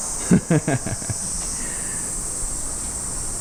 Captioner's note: laughs